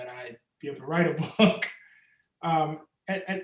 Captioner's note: Ta-Nehisi chuckles